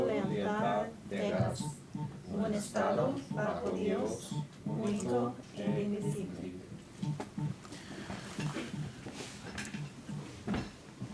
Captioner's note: speaking spanish